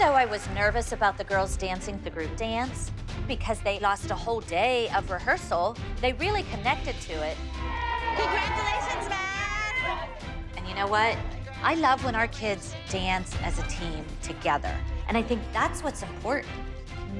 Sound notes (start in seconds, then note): 7.6 cheering